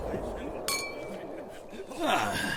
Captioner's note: glasses clink